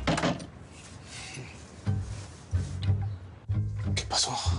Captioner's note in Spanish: Ruido al cerrar